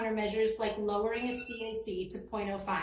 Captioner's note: timer sounds